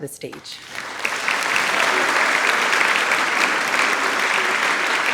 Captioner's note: audience applauding